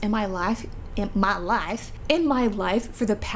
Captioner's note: weird accent